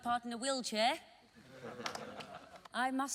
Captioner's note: laughing